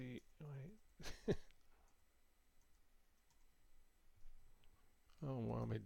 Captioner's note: laughs